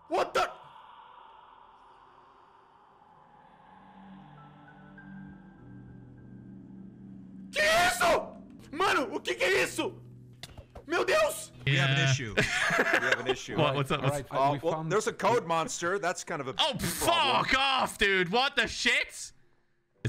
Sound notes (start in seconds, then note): 0.1 in English; 2.7 silence; 7.0 in Portuguese; 11.6 in English